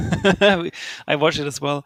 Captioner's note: laughing